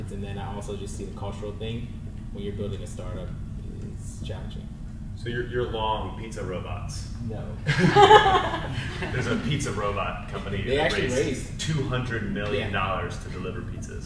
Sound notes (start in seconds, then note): 7.6 panel laughs